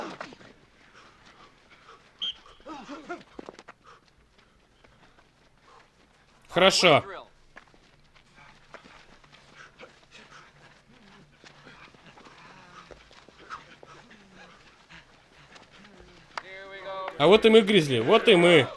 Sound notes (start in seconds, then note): 0.2 grunting; 2.2 whistle blows; 2.6 grunting; 7.9 grunting throughout